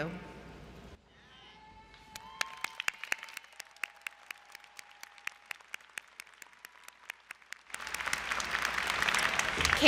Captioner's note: crowd Cheering & Applause